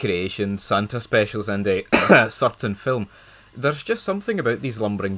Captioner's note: cough